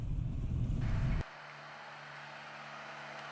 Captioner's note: road noise